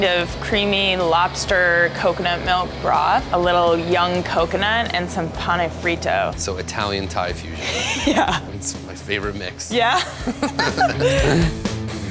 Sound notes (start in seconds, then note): 7.6 laughs; 9.8 laughter; 11.9 lively music